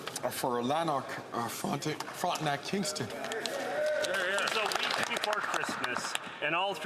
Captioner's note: some Applause